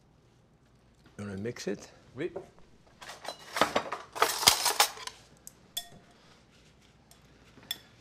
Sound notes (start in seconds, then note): 3.0 cutlery rattling